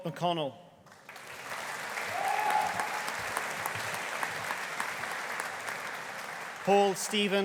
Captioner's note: audience applauding; audience cheering